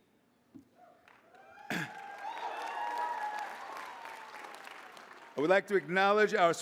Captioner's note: applause